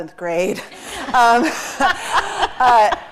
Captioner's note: laughter